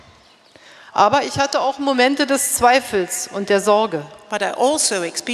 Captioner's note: speaking in German